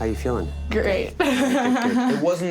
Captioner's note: chuckles